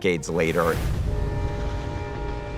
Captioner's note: train horn honks